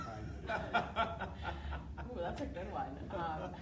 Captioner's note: laughing